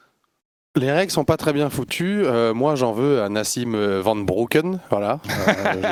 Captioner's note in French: rires